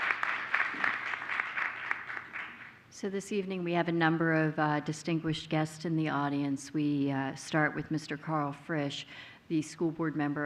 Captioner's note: applause